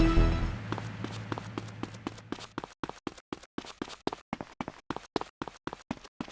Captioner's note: footsteps